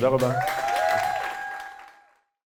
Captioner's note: applause; cheers of encouragement